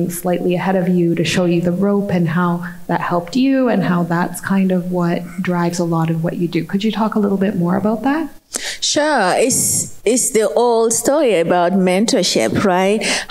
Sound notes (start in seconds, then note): none